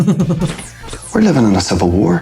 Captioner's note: chuckles